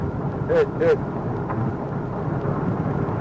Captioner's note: man shouting